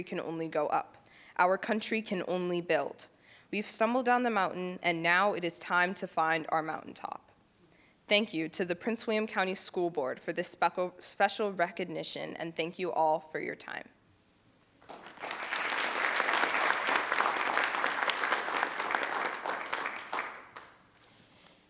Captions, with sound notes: can only go up, our country can only build. We've stumbled down the mountain and now it is time to find our mountaintop. Thank you to the Prince William County School Board for this special recognition and thank you all for your time. (group applauds)